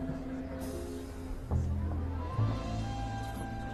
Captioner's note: people chattering softly